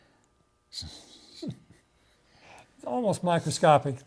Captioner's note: chuckling